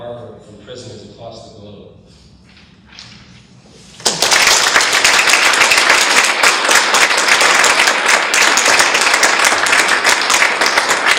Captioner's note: audience claps